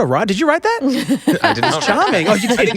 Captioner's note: group laughs